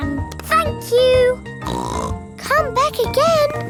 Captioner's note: snorts